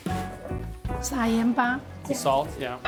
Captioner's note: speaking local language